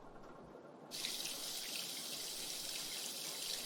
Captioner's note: running water